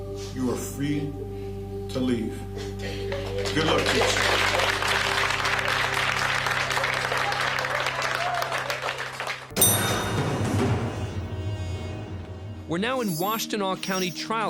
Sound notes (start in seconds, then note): 4.8 applause